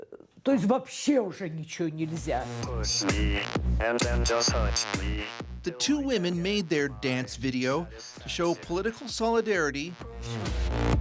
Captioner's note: speaking russian